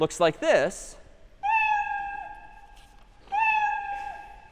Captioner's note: meowing